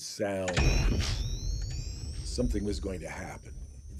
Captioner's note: machinery humming